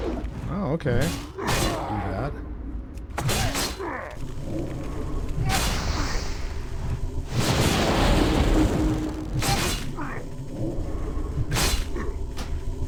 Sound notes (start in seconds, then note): 3.2 grunts; 7.3 explosion; 9.4 grunts